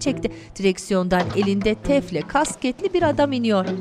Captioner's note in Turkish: Kapı açılma sesi